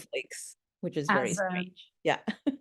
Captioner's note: chuckling